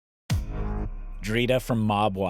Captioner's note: dramatic music; electricity buzzing